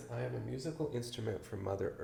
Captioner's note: none